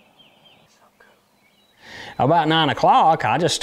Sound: whispers

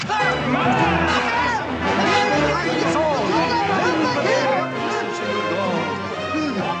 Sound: people shouting; man groaning

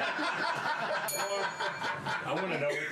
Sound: laughter; bell rings

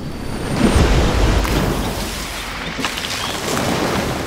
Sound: water crashing

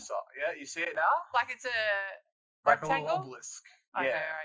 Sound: none

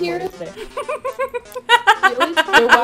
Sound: cat giggles and then it turns to an evil laugh

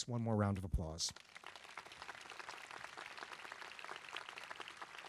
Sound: crowd clapping

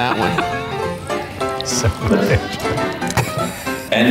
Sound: slurps tea

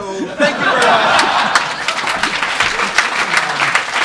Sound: crowd cheers

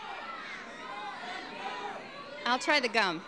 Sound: audience overlapping loudly

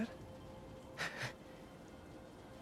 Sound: laugh

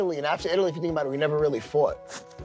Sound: none

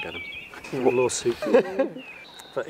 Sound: laughter

